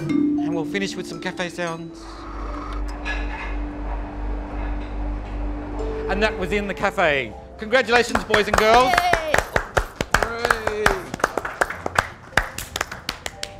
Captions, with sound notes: And we'll finish with some cafe sounds. [Audio recording from cafe playing] And that was "In the Cafe" Congratulations boys and girls! [Clapping]